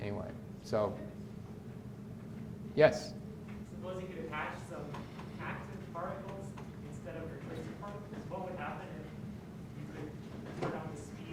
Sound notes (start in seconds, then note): 7.5 speaks faintly